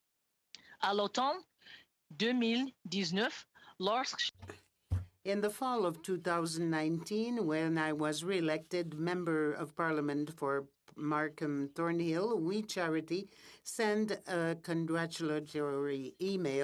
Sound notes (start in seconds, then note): 8.2 speaking French